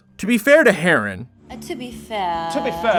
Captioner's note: A chorus of "to be fair"s